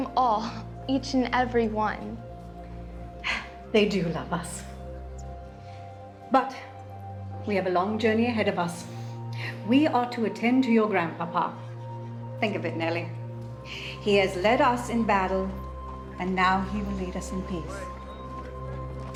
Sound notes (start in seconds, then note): 3.2 sighs